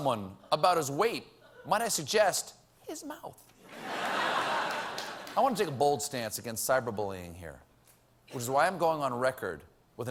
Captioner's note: laughter